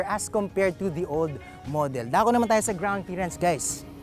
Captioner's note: none